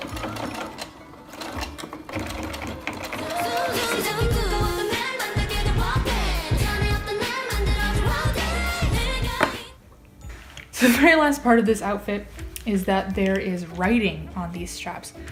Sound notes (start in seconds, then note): none